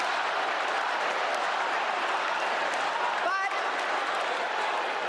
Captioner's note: applause